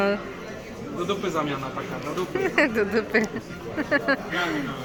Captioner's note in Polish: śmiech